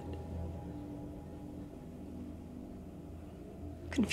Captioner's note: tense music; crickets chirping